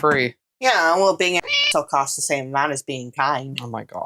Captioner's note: meow